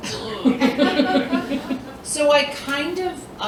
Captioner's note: laughter